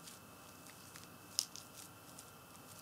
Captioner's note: crackling